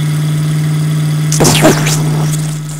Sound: explosion

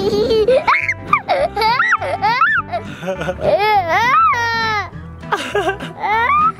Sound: giggles; giggles and screams; laughs

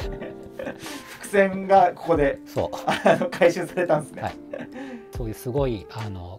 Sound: laughing; laughing

